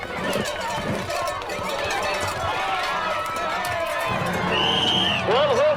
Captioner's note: crowd cheers as whistle blows